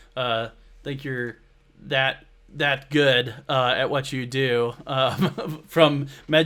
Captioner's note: laughs